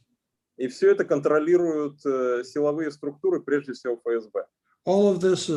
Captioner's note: speaking Russian language